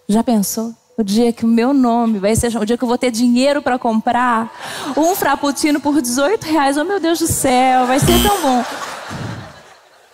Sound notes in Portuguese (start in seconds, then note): 8.0 campainha